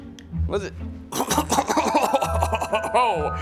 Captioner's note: coughing